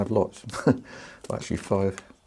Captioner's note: laughs